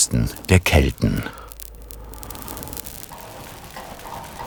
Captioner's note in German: Behutsames Hauchen, Knistern